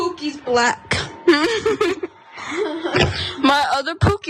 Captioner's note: laugh